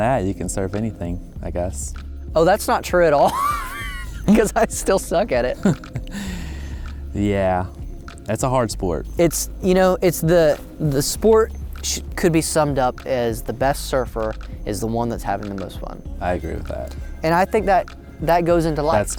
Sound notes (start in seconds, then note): 3.2 laughs